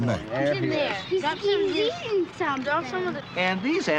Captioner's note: children Talking